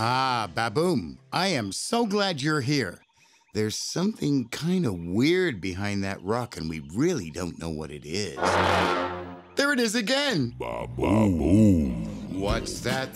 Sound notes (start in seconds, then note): 8.4 loud honking; 12.3 upbeat music